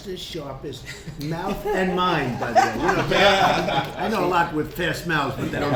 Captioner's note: laughter